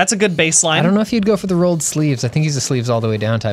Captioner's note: pat